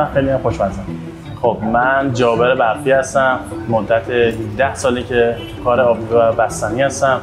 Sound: speaking in foreign language

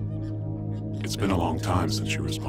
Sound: low Voice

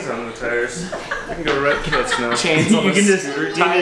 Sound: family laughter

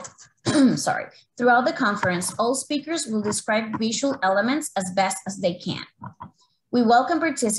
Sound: clears throat

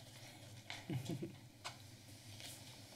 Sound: chuckles

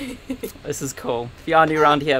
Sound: laughing

